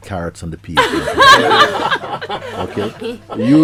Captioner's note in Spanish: Risas